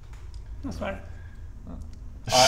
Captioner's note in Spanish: Vocecita